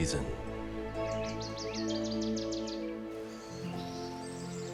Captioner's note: birds chirping